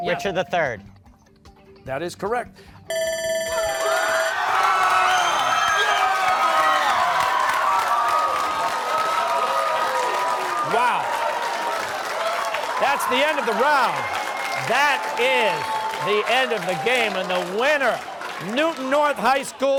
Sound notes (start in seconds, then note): 2.9 bell ringing; 3.9 cheers and applause